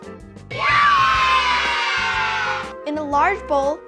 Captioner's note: cheers